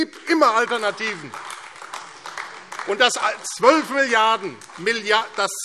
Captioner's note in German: Beifall AfD